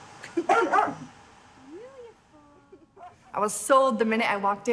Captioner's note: dog barking